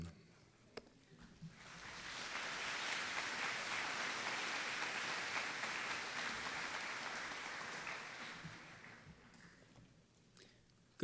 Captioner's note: applause